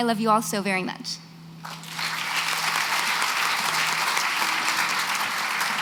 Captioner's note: applause